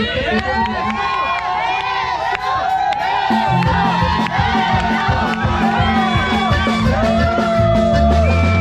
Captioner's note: crowd chanting "kiss her"